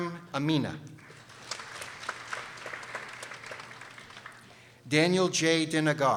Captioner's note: people applauding